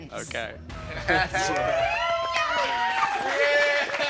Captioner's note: cheering